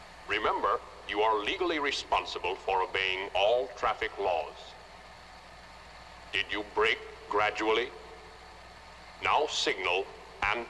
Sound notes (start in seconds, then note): none